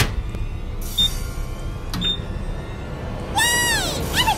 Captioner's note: beeping